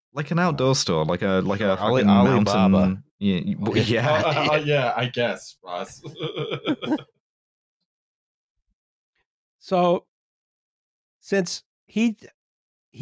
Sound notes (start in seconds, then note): 5.7 laughs